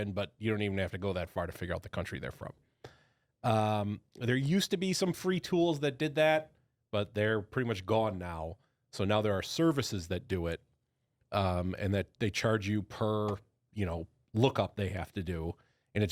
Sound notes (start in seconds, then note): none